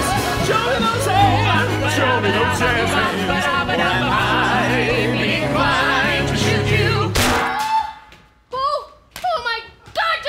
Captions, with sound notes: - Show me those hands, show me those jazz hands! - doo bop a da-ba da-ba, doo bop a da-ba da-ba, Or I might be inclinced to shoot you- (metal clang) (scream) (Speaking) Woah! Oh my god!